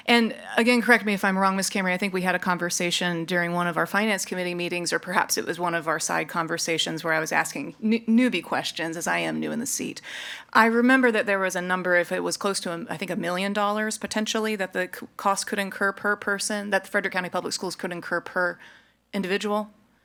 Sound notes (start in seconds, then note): none